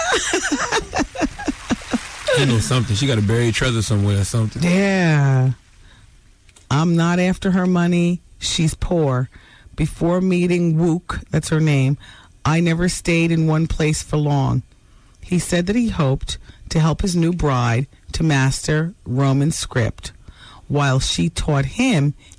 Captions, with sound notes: (laughing) She know somethin', she gotta bury each other somewhere somethin'. Yeah. I'm not after her money, she's poor. Before meeting Wook, that's her name, I never stayed in one place for long. He said that he hoped to help his new bride to master Roman script while she taught him